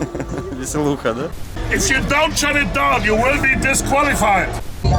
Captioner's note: threatening in English